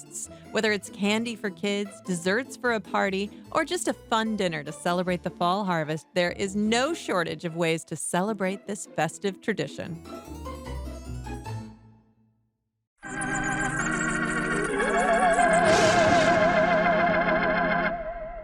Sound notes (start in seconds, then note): 13.0 scary music; 15.6 thunder